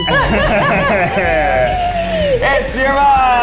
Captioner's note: laugh